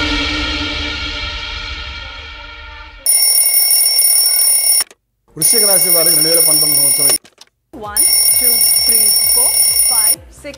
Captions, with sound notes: (Alarm rings) (Alarm rings) - The year 2019 is.. (Alarm rings) - One, two, three, four, five, six..